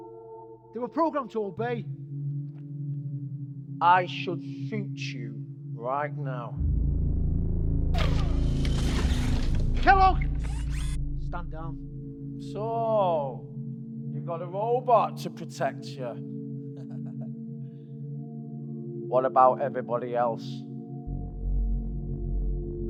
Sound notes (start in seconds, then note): 6.6 distorted ominous music; 9.9 Kellogg's arm whirring; 16.7 chuckles